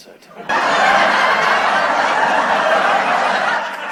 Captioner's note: canned laughter